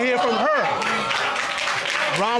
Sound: audience exclaims, applauds

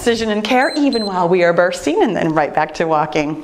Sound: timer beeps

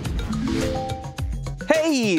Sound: air wooshing; electronic ding

